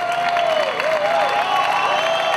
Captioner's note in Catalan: aplaudiments i crits